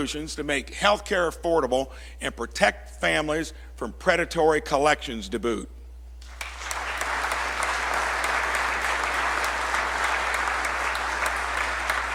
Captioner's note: applause